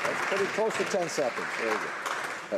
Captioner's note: applause